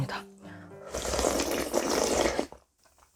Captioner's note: slurping glass noodles